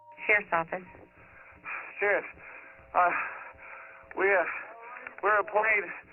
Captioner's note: on phone